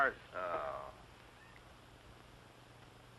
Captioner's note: groans